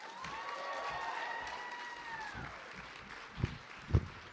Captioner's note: applause